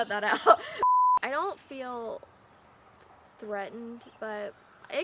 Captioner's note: "no signal" tone beeps